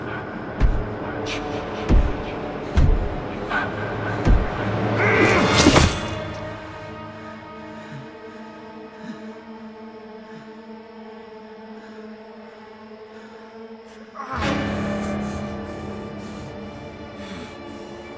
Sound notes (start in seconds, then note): 5.0 grunt, splat; 16.9 breathing heavily